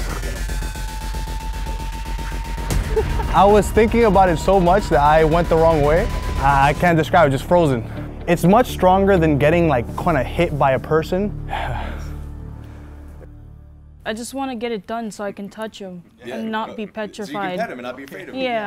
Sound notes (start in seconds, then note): 0.1 energetic music; 11.6 laughs